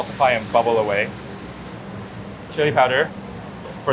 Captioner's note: food sizzling continues